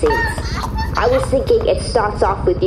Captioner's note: braying